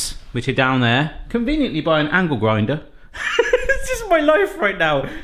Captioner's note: laughing